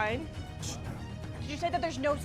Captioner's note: whispered consultation